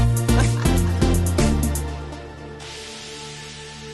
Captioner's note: laughs